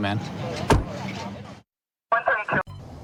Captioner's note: car door closing